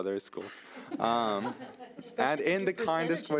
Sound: people laughing

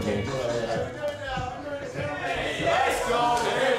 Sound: chatter

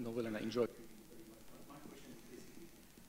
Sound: speaks off microphone

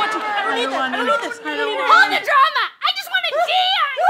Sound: yelling; screaming

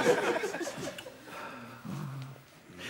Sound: sighs

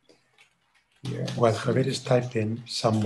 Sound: keyboard clattering

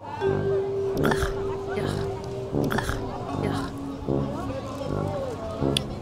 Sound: biting and chewing noises

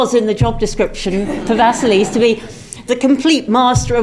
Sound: laugh

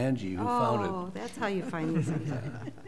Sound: laughter

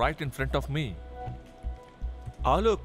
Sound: none

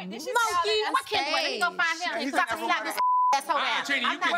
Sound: beep

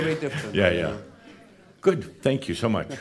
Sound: they laugh

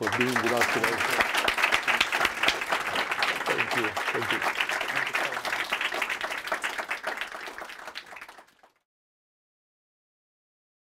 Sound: applause

